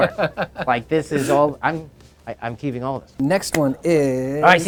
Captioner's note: laughs